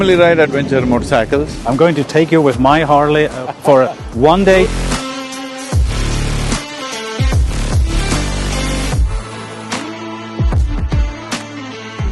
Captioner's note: Sadhguru laughs